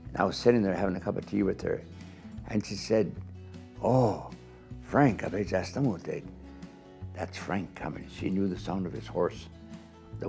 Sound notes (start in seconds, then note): 3.9 speaking foreign language